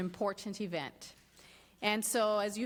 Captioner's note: speaks Spanish